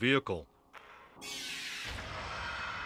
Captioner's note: raptor roar